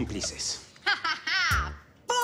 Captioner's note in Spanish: Carcajadas